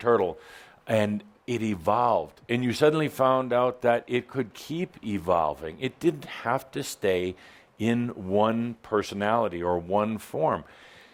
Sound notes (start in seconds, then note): none